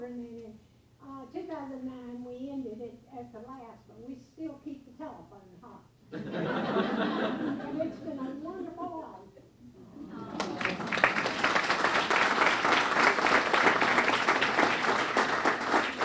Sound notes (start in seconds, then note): 6.1 laughing; 10.2 clapping